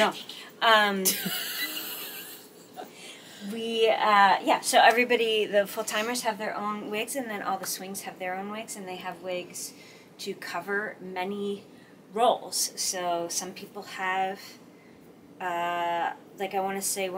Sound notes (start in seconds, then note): 1.0 laughs